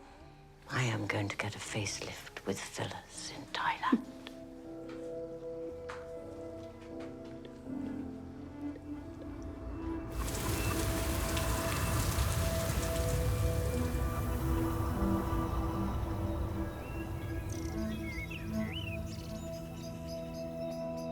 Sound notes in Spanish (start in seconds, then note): 16.6 pájaros cantando